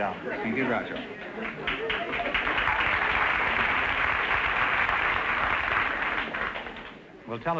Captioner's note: applause